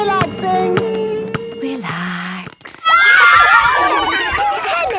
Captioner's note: kids screaming; laughter